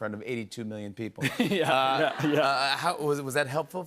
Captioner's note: laughter